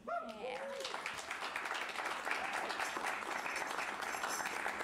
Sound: cheers and applause

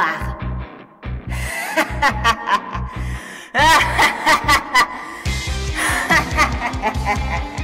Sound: evil Laugh

